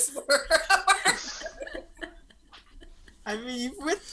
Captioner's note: cast laughs